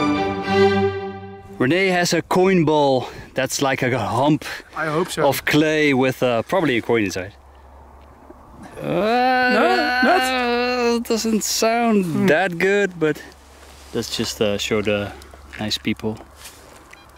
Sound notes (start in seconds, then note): 8.6 groans